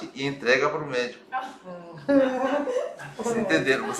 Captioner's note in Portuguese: risos